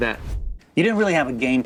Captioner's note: air whooshing